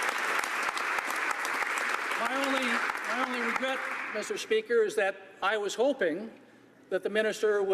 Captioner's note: applause